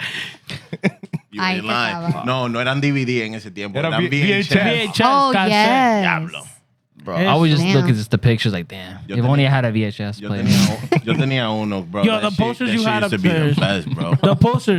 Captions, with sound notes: (Laughing) I can follow up. (Speaking In Foreign Language) Oh, yes. God, stop saying that. I was just looking at the pictures like, "Man, you've only had a VHS plane." (Speaking In Foreign Language) Yo, the posters you had up there. She used to be the best, bro. The posters.